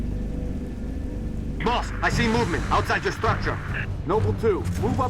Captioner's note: radio